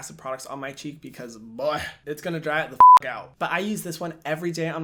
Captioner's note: beeps